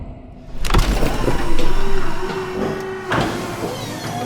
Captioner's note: machine whirring